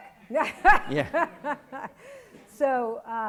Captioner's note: laughs